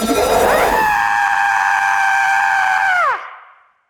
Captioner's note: screaming